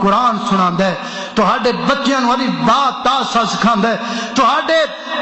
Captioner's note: arabic Language